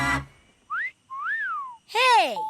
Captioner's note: wolf whistling